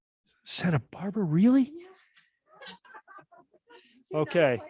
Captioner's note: quiet background laughter